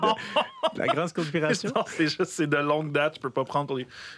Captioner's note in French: en riant